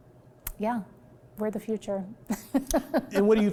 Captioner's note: laughs